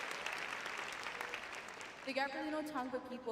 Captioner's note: applause